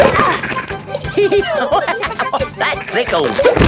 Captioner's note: laughing; giggling